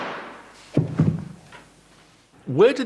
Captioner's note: gunshot; thud